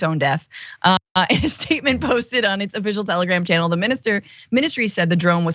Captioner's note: laugh